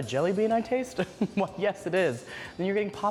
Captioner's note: laughs